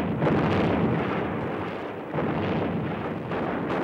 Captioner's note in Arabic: الانفجارات